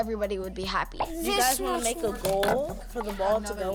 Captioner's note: crew chatting